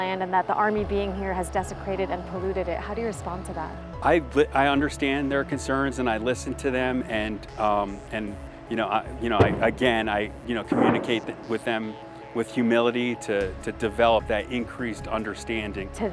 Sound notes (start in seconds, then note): 9.3 bang; 9.4 explosion sounds